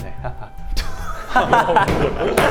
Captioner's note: bursts into laughter